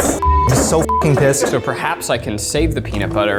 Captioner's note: beeps